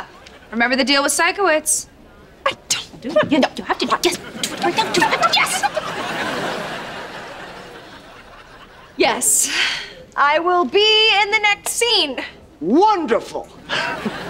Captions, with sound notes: Remember the deal with Sikowitz. I don't want-- You have to do it. [arguing] Yes, I will be in the next scene. Wonderful. [chuckles]